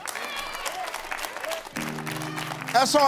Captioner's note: crowd cheering